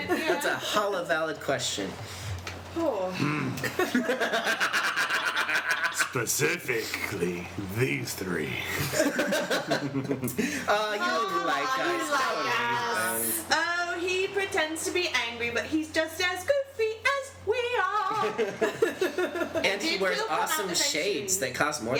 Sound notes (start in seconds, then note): 4.7 laughter